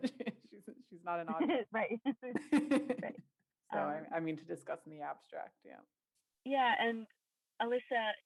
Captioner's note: laughter